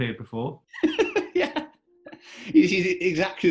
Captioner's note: laughing